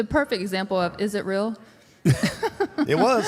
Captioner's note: laughs